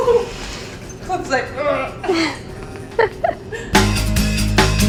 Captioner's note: laughs